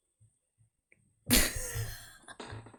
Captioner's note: laughs